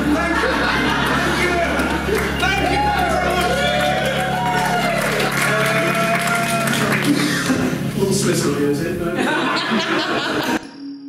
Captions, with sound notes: Thank you, thank you! Thank you very much! [Audience Laughing, cheering and applauding] Will Smith's not here, is he? No? [Audience Laughing]